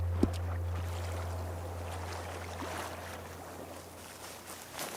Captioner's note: water splashing; footsteps running